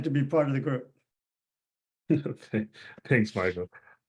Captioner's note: laughs